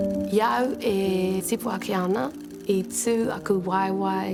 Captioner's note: speaks Te Reo Māori